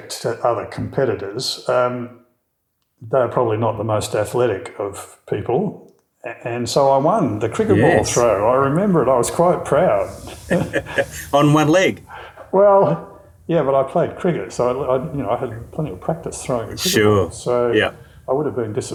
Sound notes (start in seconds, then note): 10.0 both Laughing